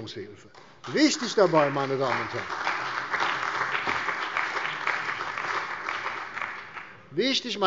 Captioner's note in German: Beifall bei der CDU und dem BÜNDNIS 90/DIE GRÜNEN